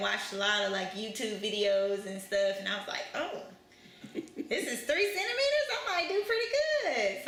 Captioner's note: laughter